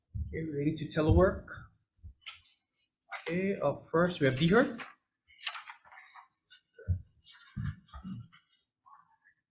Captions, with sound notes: okay, related to telework. Okay, up first we have DHRD. (paper rustling)